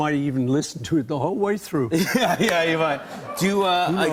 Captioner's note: laughter